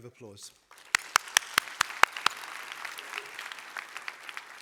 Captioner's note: applause